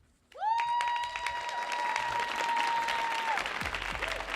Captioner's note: audience cheering